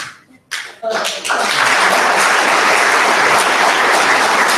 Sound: audience applauds

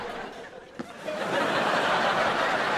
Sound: laughing

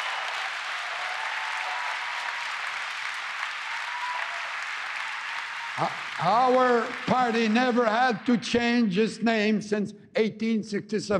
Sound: applause

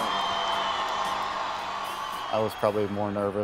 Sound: cheering

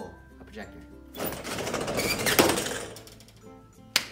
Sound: projector Pulling Noises; clap

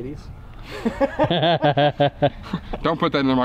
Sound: laughing

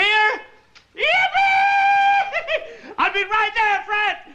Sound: laughs

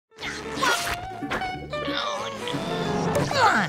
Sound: grunting

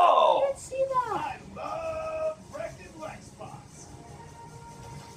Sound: game voice

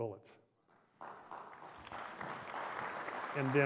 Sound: applause

